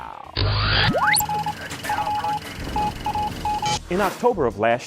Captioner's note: sound Effects